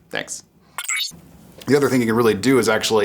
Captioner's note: electronic sound